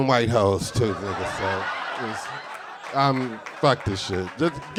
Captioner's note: audience laughing